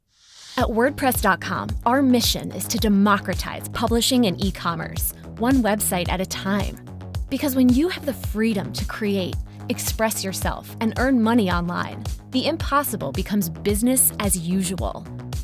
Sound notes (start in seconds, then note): 0.7 voiceover